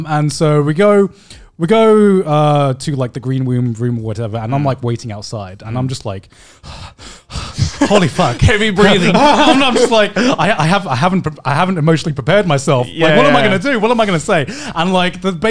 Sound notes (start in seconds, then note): 6.2 breathing heavily; 7.5 men laughing